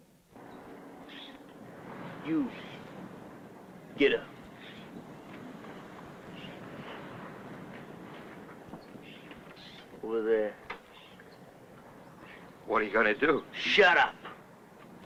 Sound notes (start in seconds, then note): none